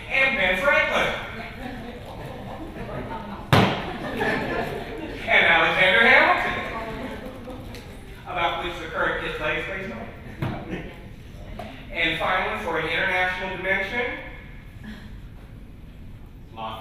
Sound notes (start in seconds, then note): 3.7 laughter continues